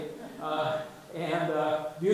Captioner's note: audience chuckles